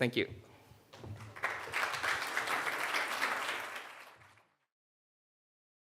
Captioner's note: audience applauding